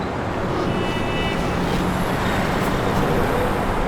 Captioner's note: horns honking